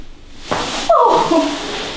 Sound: the girl screams after massage

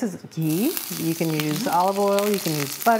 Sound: ghee sizzling

